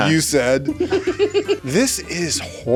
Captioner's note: laughs